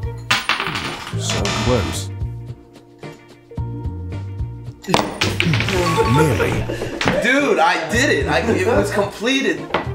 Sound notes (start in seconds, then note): 0.2 coin clatters; 1.4 buzzer sound; 3.1 light instrumental music; 4.8 glass clatters